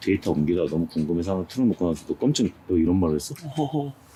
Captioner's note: surprised